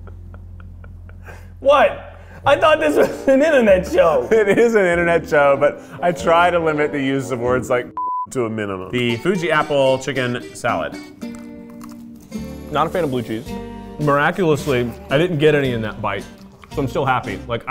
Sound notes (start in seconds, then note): 11.2 crunching